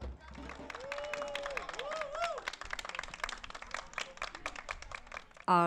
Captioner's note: crowd cheering and applauding